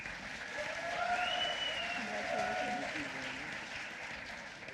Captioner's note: applause